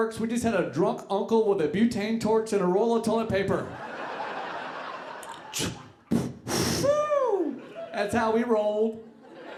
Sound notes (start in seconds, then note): 5.1 imitating explosion